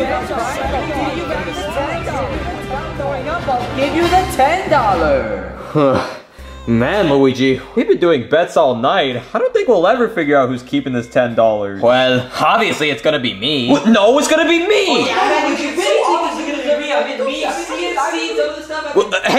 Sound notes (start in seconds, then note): 6.2 panting